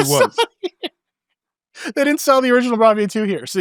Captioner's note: laughing